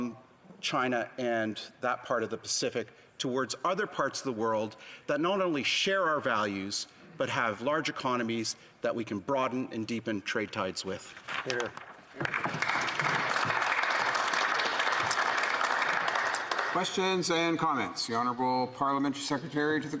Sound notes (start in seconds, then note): 16.1 applause